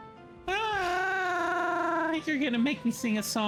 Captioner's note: trills